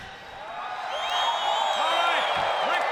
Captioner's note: audience cheering